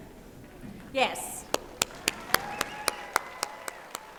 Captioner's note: clapping